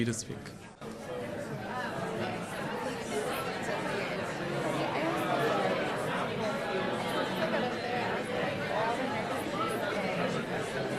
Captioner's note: crowd discussing